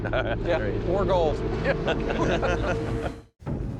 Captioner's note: laughter